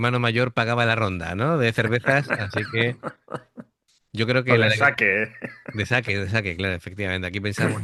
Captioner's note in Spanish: risas